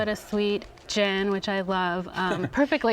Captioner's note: laughs